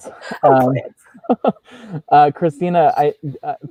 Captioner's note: laughing; laughs